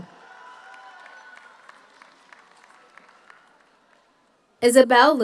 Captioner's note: audience cheers; audience applauds